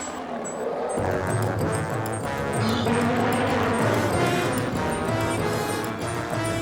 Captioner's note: gasping